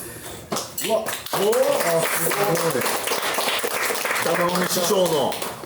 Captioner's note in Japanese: 拍手